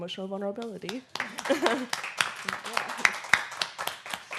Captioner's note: applause